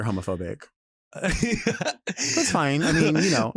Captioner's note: chuckles